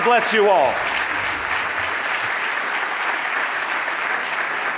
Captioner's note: audience applauding